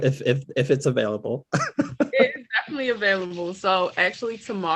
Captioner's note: laugh